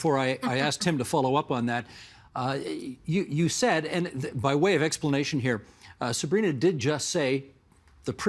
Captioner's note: laughter